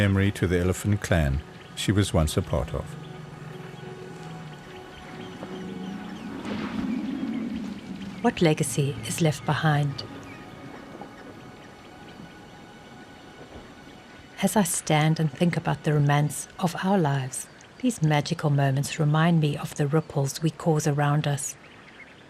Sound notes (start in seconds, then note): 6.0 rumbling; 7.7 animals calling